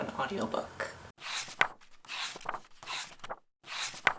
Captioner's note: pages turning